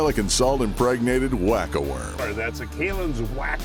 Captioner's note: voiceover